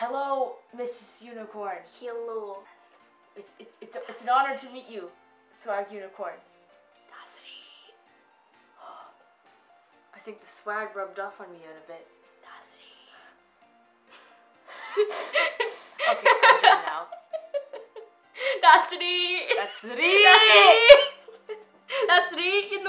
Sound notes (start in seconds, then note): 8.9 gasps; 14.7 both laughing